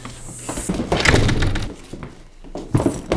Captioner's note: door closes